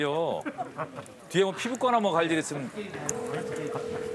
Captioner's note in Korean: 휴대전화 통화 연결음